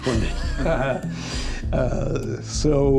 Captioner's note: everyone laughs